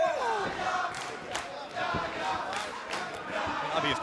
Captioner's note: fans chanting